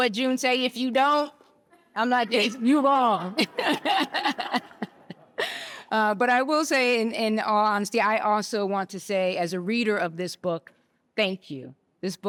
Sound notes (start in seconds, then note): 3.2 laughter